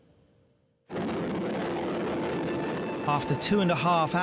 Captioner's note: helicopter blades whirl